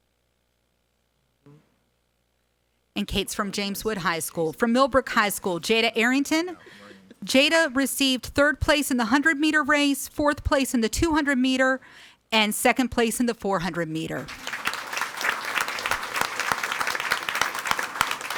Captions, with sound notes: And Kate's from James Wood High School. From Millbrook High School, Jada Arrington. Jada received third place in the 100 meter race, fourth place in the 200 meter and second place in the 400 meter. (audience applauding)